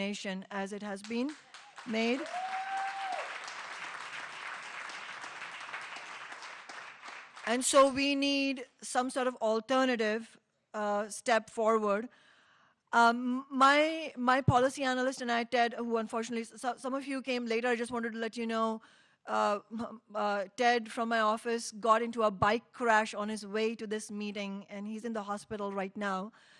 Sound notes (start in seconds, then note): 6.9 applause